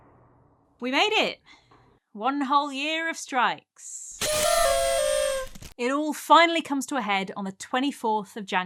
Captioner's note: sad party whistles